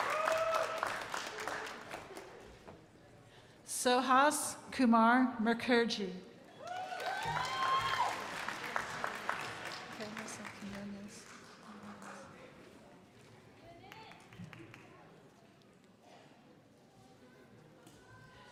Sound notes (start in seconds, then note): 6.6 crowd applauding